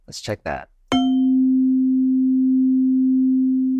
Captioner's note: chime